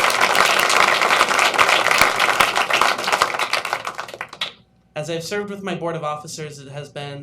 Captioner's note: applause